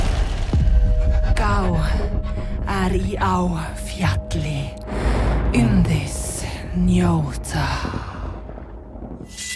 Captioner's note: senua speaking icelandic